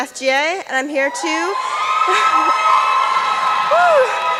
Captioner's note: applause and cheering